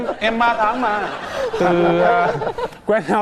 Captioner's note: laughing